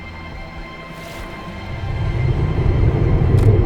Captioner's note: growling